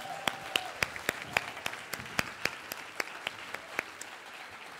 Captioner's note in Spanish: aplausos